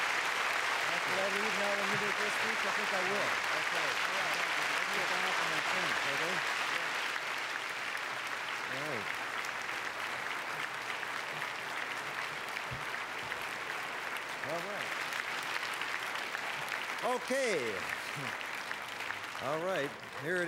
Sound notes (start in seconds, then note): 6.6 applause; 8.8 applause fade